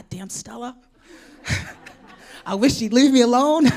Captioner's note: laughter